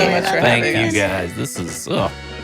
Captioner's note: happy sound